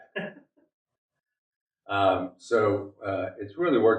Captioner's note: laughing